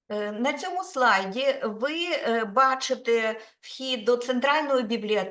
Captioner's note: speaking Ukrainian